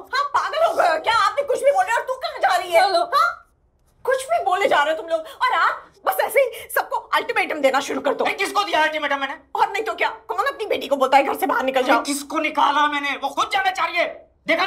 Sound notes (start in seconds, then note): 2.9 Naina on the phone